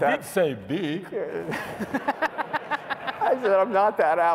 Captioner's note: laughter